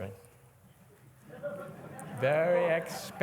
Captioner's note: laughter